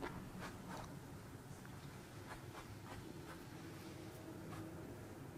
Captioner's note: footsteps; grass rustling